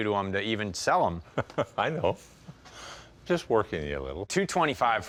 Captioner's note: laughs